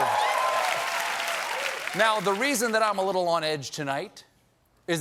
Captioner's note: cheers and applause